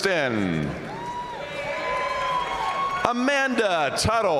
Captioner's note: audience cheering and applauding